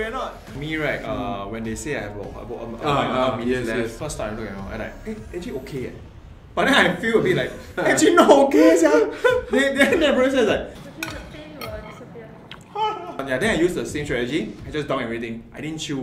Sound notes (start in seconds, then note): 12.6 disbelief